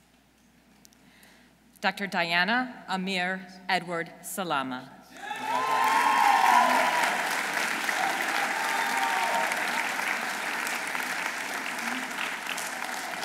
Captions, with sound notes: Dr. Diana Amir Edward Salama. -(audience cheering) -(audience applauding)